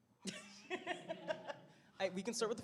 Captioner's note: laughter